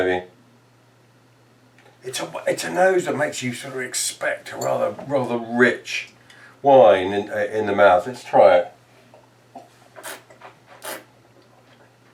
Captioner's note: slurping